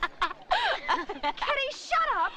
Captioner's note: Kitty laughing